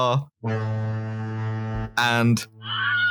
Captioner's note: foghorn; ungodly shriek